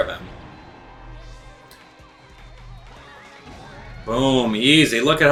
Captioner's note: gaming sounds; instrumental music